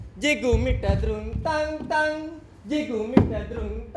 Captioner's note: walking